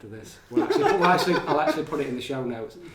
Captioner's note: laughing